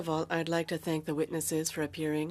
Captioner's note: speaking French